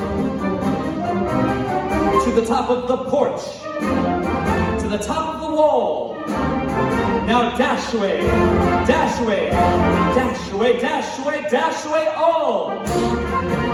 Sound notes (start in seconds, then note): none